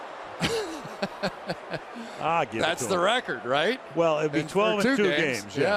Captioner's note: laughs